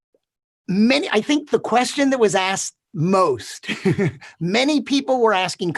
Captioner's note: chuckle